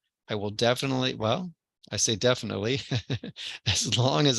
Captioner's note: laugh